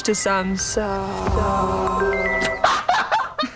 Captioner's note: iconic Samsung ringtone™